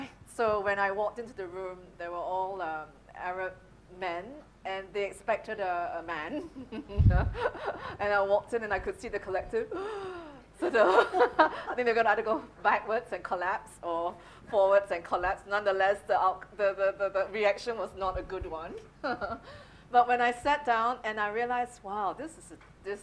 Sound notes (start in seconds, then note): 6.5 laughing; 9.8 gasping